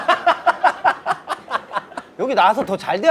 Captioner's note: laughing